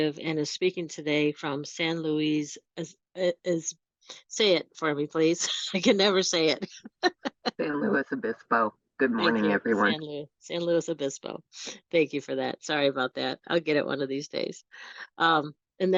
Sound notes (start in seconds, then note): 7.4 laughs